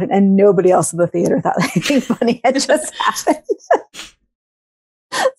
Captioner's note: laughs